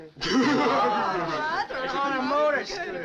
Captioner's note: all chuckling